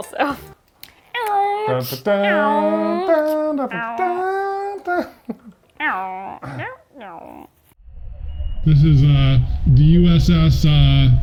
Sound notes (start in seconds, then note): 0.3 hums; 0.3 imitates car; 2.0 meows